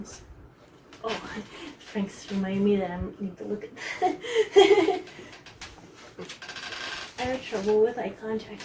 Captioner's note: giggles